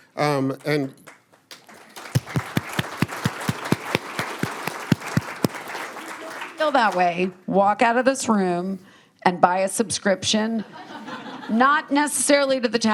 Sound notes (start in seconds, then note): 1.0 applause